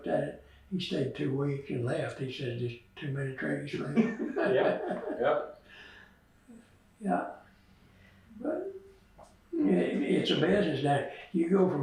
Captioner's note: laughs